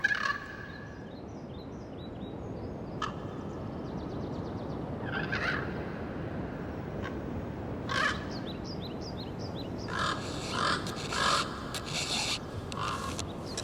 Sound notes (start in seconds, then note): 0.9 forest sounds wind echoing; 9.8 crow cawing; 11.7 scraping metal